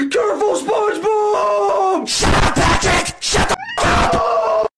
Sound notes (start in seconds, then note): 2.0 big boi scream; 3.3 meow